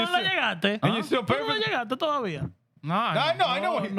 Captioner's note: speaking Foreign Language